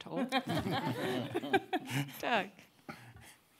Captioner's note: audience laughing